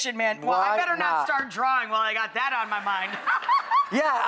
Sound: laughs

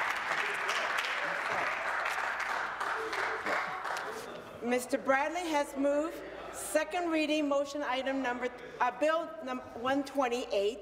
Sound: some Applause

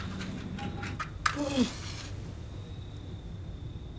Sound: sighs

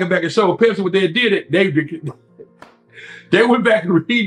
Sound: laughs

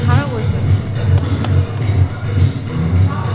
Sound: patting

